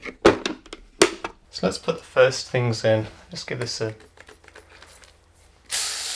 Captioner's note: sprays